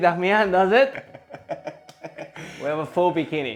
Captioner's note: laughs